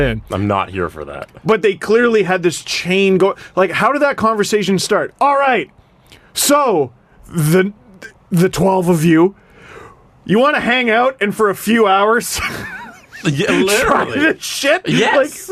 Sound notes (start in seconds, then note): 12.4 still laughing; 12.4 dissolves into laughter